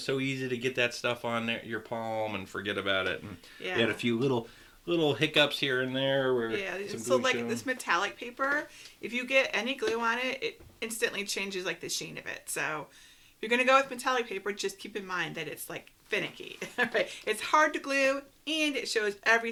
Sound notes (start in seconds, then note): 16.8 laughs